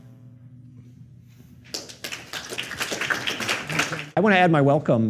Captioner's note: applause